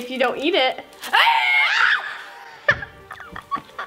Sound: screaming; laughing

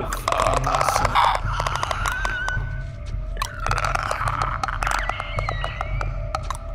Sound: even more alien like clicks and screams

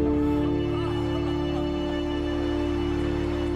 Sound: Efosa crying

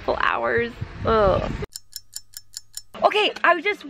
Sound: clock ticking

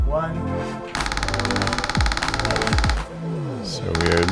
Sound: pecking sound

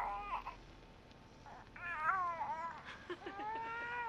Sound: baby cooing and gurgling

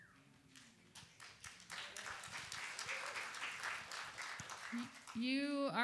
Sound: applause

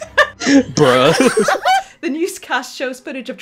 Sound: laughter

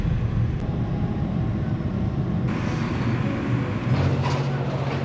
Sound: engines whirring

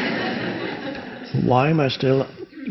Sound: audience laughs

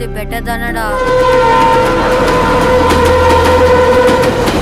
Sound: train horn blares

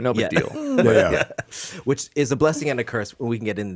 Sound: laughs

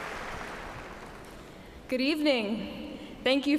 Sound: cheers and applause

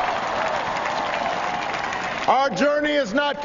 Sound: applause

